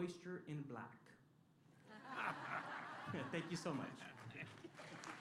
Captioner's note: laughter; applause